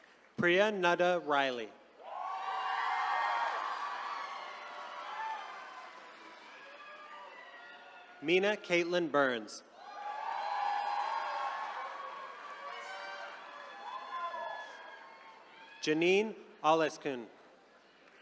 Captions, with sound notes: Priya Nanda Riley. (attendees cheering) Mina Kaitlyn Burns. (attendees cheering) Zcjanin Ollesca.